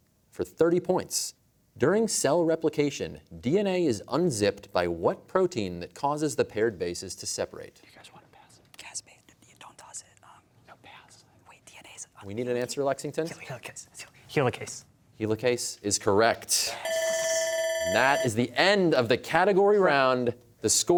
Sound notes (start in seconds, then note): 7.9 whispering; 16.3 whispers; 16.8 bell ringing